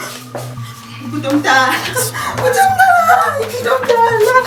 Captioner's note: SIndisiwe crying